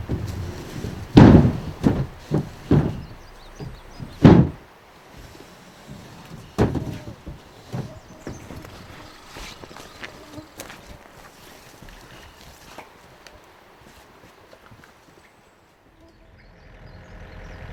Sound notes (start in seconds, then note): 0.1 banging noises; 4.0 thud; 8.1 squirrel chattering; 10.5 foot steps; 15.0 birds singing